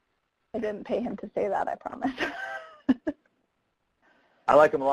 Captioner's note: laughs